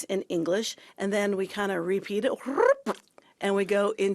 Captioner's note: rolls tongue